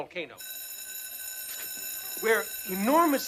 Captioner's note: school bell rings